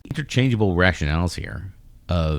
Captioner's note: uh